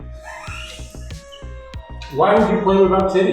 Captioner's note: laughs